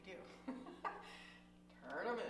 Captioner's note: laughs